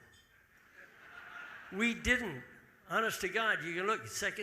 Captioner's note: audience laughing